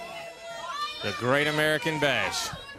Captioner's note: crowd chatter